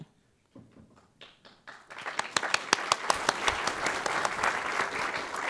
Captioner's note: applause